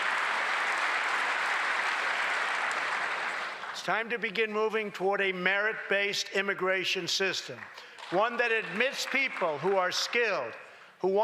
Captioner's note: applause